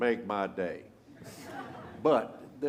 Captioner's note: laughter